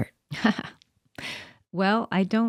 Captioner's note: laughing